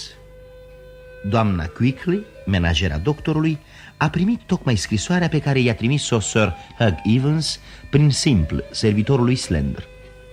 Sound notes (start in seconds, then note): none